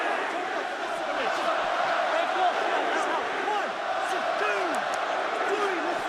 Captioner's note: crowd cheering